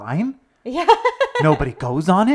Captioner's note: laughs